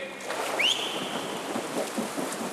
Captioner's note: whistle